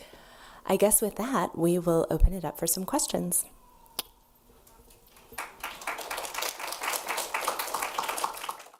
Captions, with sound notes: I guess with that, we will open it up for some questions. (applause)